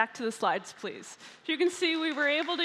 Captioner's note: applause